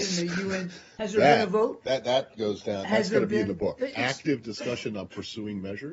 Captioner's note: laughter